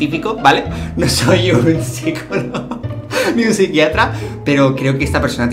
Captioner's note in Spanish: risas